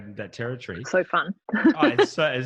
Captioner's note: laughing